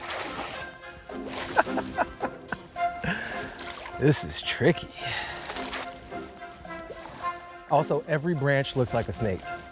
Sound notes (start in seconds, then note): 1.5 giggles quickly